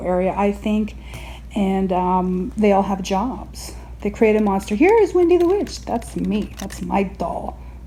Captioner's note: claw machine working noises